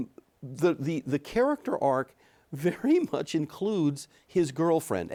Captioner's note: chuckles